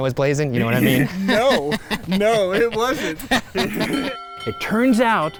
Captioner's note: laughing